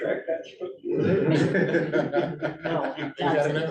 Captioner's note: laughter